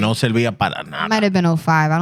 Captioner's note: speaking Spanish